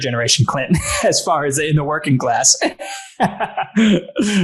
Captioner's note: laughs